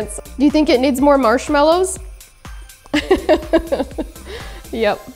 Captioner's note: laughs